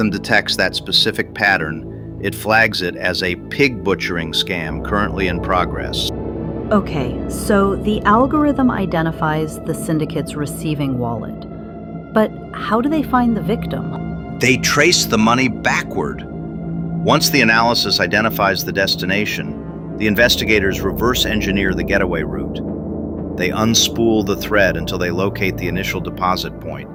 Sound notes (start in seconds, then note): 14.6 excited